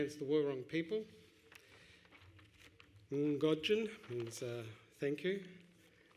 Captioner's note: Wurundjeri language